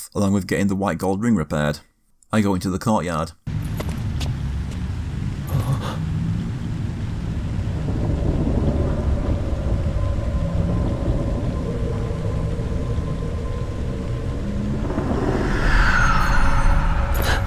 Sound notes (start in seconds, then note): 3.4 in-game audio